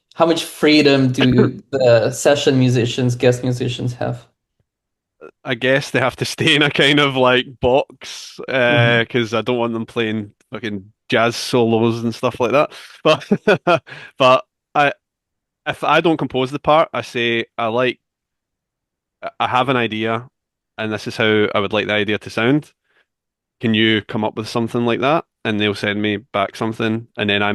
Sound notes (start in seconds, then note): 8.5 chuckles; 12.9 laughs